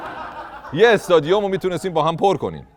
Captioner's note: laughter